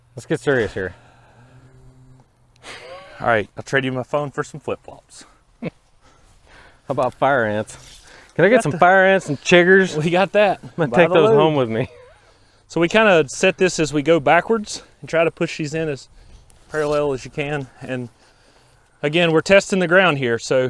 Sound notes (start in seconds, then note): 2.6 sighs; 2.8 laughs